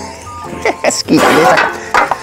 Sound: laughs

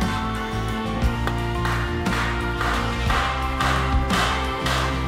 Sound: metal banging

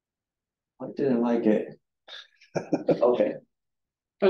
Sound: audience chuckling

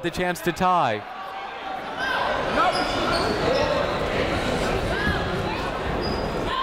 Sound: people shouting in the crowd

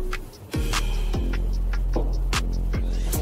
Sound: exhale

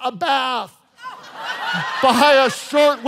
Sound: congregation laughing

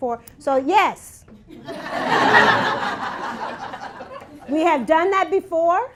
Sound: laughter

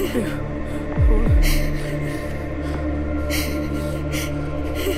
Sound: cries

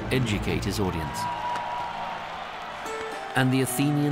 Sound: crowd cheering enthusiastically

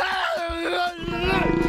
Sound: screaming

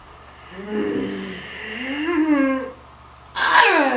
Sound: snarls

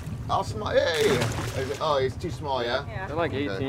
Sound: fish splashing

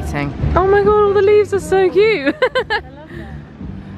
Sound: laughing

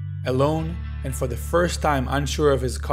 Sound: voiceover

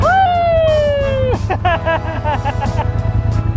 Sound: cheering

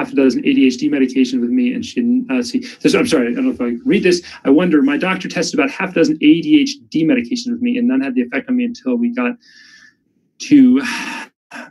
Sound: sighs

